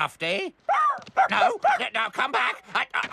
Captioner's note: barking